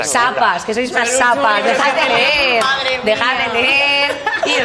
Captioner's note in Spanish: todos ríen